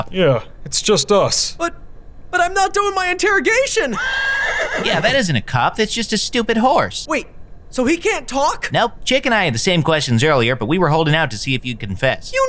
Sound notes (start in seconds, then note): 3.9 horse neighs